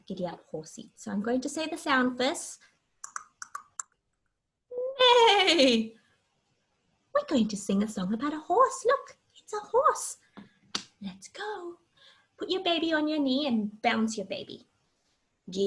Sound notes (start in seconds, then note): 3.0 mimicking horse sounds